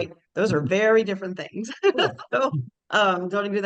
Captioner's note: chuckles